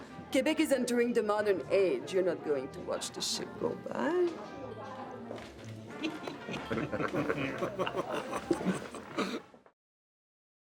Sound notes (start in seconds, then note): 6.0 men laugh